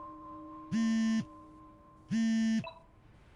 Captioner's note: phone buzzing; phones ringing